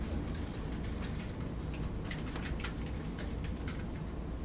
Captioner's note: typing on keyboard